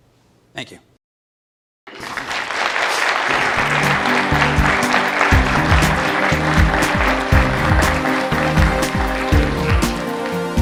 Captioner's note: applause